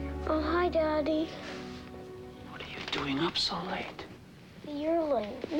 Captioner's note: whispering